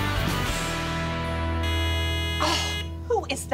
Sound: beeping

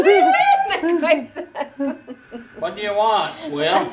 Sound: laughs

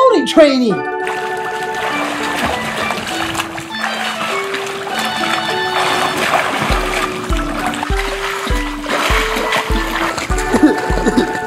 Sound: snickering & Chucking

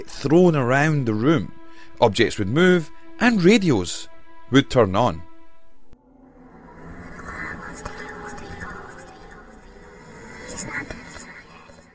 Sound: spooky Voices

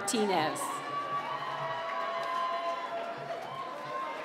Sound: cheering

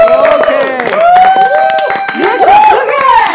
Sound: applause

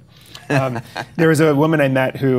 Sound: Chase laughs

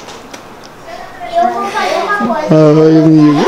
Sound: indistinct chatter in the background

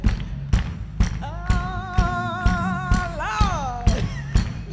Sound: audience claps along

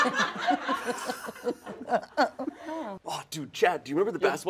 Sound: all laughing

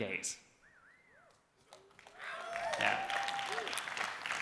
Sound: cheering

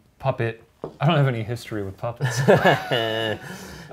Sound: laughs

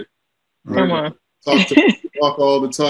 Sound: laughing

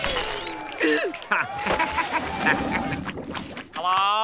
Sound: laughing; gasping

